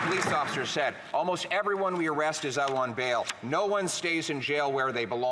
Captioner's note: some Applause